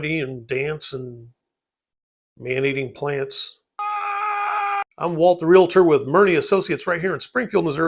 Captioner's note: man screaming